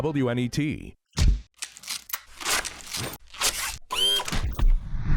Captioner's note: camera shutter clicking